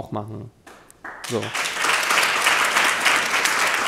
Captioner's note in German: Applaus